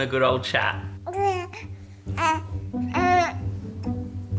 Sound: baby cooing

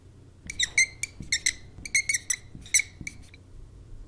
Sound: marker squeaking

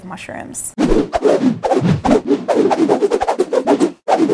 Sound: whooshing

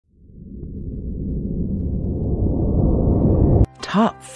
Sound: dramatic swoosh

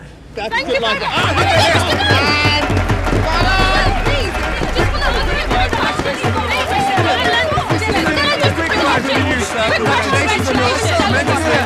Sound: screaming on top of each other

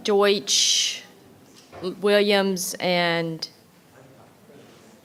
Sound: none

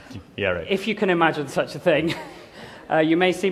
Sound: laughter

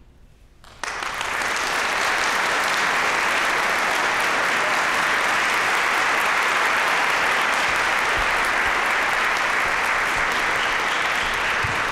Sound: applause

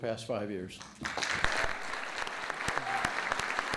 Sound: applause

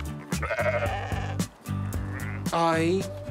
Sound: sheep bleat

